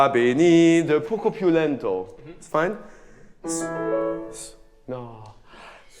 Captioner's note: speaks in a foreign language